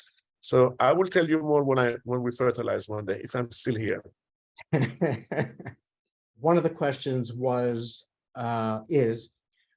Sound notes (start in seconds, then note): 4.6 laughter